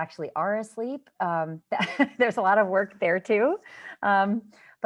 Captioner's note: laughter